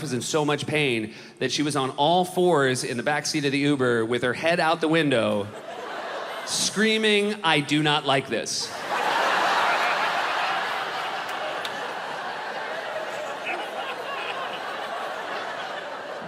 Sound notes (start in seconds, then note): 8.6 crowd laughs